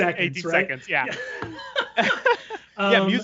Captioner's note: laughing